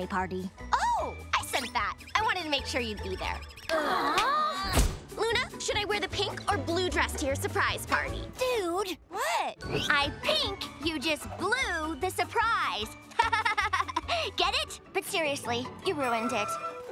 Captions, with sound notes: Oh, I sent that. I wanted to make sure you'd be there. [siblings groaning] Luna, should I wear the pink or blue dress to your surprise party? - Dude? - What? I think you just blew the surprise. [laughing] Get it? But seriously, you ruined it.